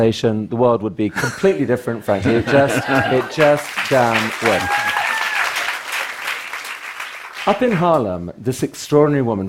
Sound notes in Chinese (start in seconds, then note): 4.3 Applause; 4.3 掌聲